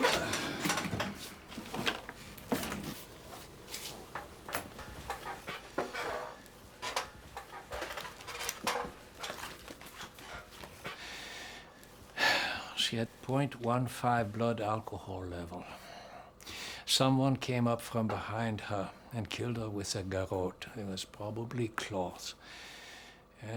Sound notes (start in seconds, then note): 0.0 Dr. Shultz groans; 0.0 drawer clatters; 3.2 chair creaks; 12.2 exhales loudly